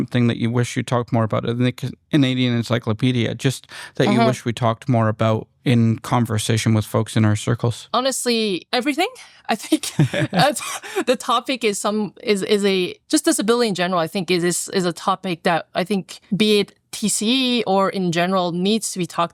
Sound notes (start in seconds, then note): 9.8 laughter